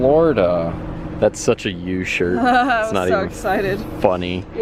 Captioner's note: laughter